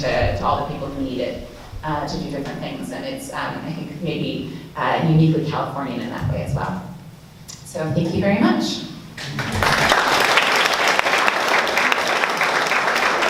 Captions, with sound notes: to all the people who need it to do different things and it's, I think, maybe uniquely Californian in that way as well. Thank you very much. (audience clapping)